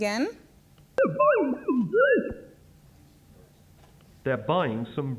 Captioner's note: voice speaks distorted, machine-like speech; voiceover